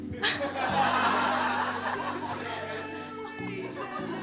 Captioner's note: laughter